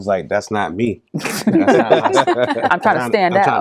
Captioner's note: laughing